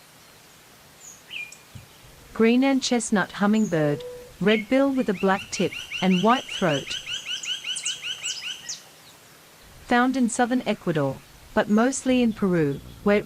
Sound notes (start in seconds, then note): 1.3 birds chirping; 7.1 birds chirping and singing